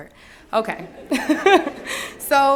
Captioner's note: laughter